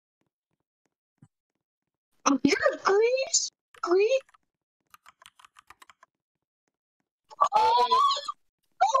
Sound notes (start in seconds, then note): 4.8 typing; 7.3 excited sounds